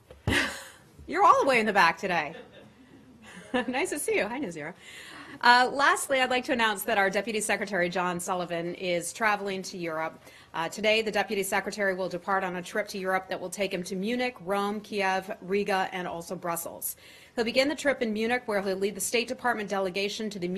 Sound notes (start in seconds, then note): 3.2 laughter